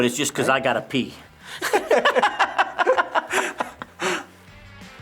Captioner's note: both laugh